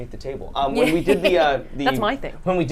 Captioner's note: laughs